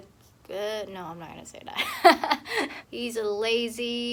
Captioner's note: laughs